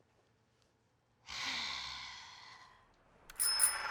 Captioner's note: sighs